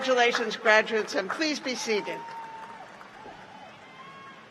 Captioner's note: cheers and applause